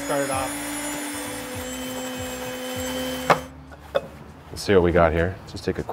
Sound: machine humming

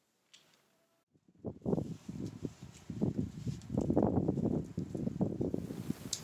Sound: wind crackling

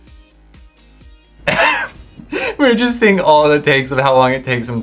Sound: laughs

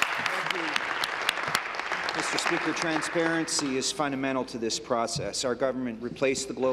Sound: applause

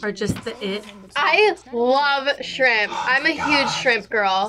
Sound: whispers

